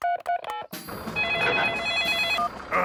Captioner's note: phone ringing; phone beeping